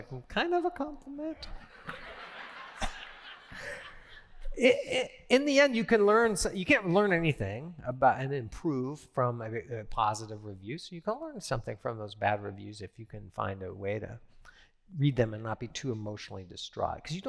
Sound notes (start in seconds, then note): 1.6 laughter